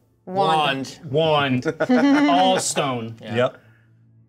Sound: co-hosts laughing

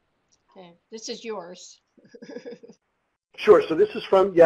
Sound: laughs

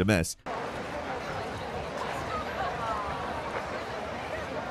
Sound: crowd muttering

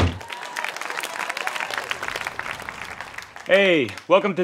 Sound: cheering

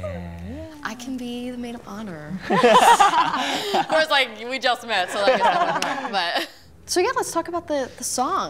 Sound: laughing

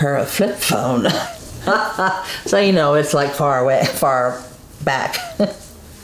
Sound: laughs

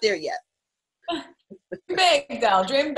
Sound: laughing

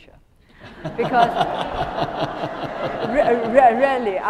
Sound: attendees laughing

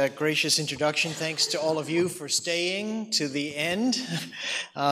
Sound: chuckles

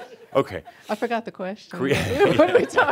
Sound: they chuckle

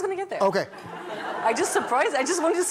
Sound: laughter

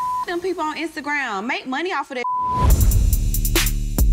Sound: beep; smooth music

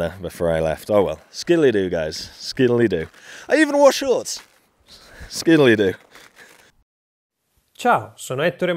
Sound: in Italian

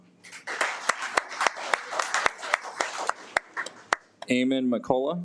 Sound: audience applauds

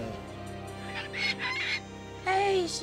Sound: groaning; bird squawking

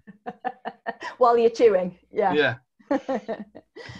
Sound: laughs

